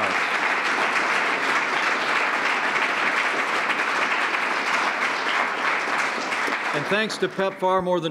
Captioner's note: applause